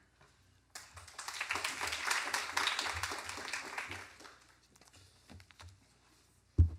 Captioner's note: applause